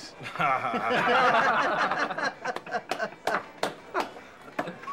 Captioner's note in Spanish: risas